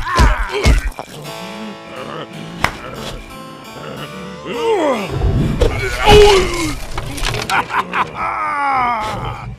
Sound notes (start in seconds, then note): 6.1 monster grunt